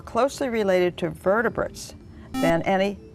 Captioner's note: buzzer